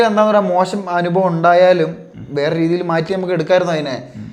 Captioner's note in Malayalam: തൊണ്ട ശരിയാക്കുന്നു